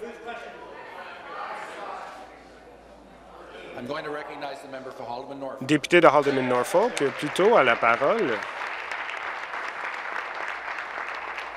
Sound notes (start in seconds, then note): 3.7 conversation din; 10.5 applause